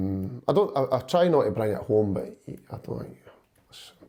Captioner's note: none